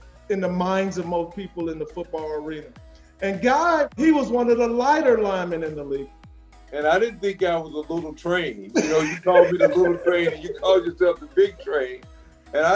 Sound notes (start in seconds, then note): 8.6 laughs